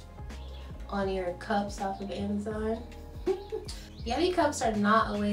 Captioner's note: laughs